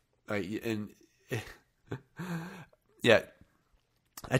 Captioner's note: chuckling